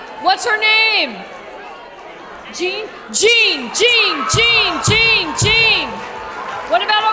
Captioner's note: chanting jean